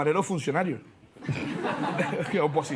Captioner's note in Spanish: Risas